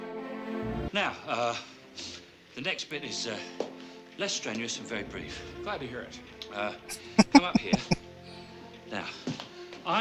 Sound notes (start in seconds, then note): 6.9 laughing